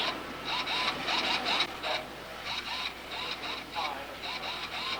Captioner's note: high-tech machinery sounds